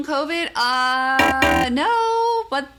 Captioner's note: alarm blaring